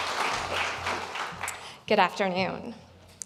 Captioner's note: applause